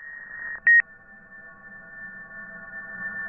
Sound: beeping

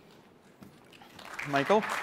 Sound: applause

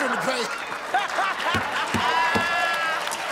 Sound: laughter

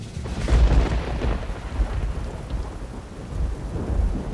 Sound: thunder crashes

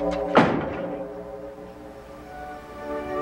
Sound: door slams; gentle music

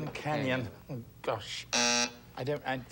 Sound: buzzer sounds

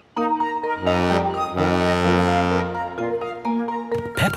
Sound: boat horn honking

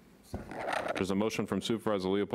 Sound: garbled microphone feedback

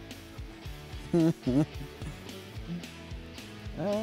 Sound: laughs

